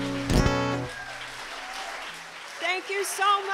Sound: applause

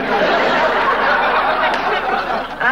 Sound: audience laughing

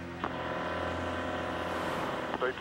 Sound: beeps; phone ringing; on phone

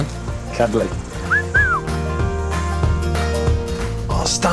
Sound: appreciative whistle

